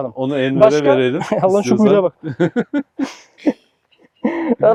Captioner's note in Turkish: Gülüşmeler